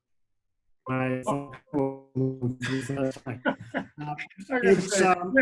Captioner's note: laughs